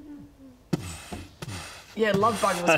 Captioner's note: boof...boof